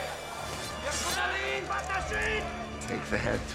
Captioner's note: men yelling in arabic